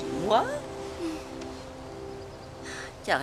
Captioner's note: chuckling